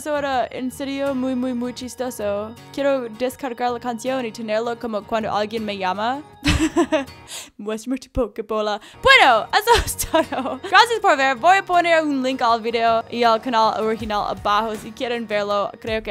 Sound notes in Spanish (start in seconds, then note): 6.4 risas